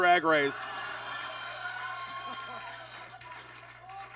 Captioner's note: audience laughs